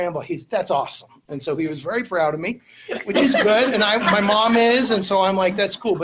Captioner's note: laughter